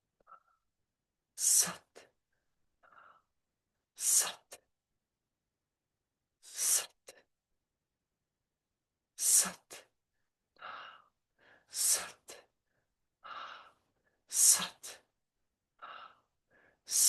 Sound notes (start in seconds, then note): 15.0 loud whisper